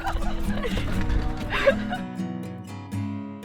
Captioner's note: giggling